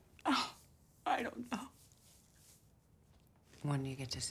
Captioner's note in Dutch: snikkend